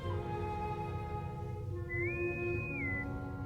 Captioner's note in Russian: свист интеркома